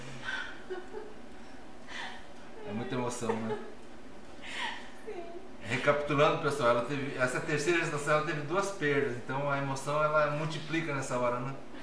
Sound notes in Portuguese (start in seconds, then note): 3.1 risos